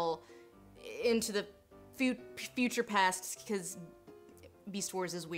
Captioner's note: stutters